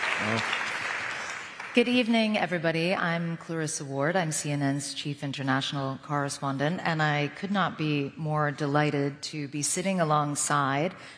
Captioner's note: applause